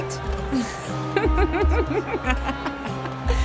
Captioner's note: Flavia giggling